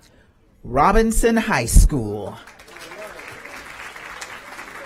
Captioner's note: applause